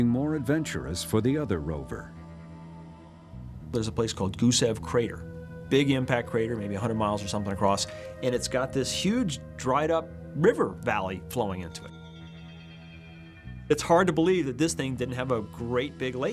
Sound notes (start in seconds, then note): none